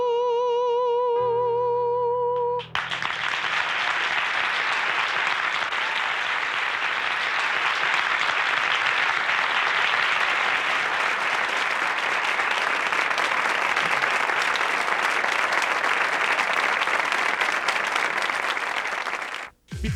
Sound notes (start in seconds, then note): 1.2 piano ends; 2.7 audience applause